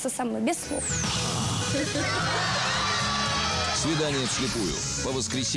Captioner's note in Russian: смех